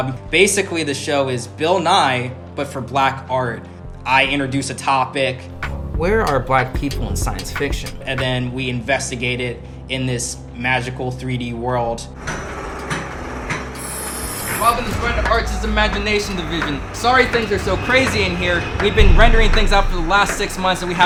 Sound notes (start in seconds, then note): 12.6 machine whirling